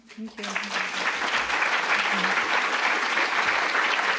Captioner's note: applause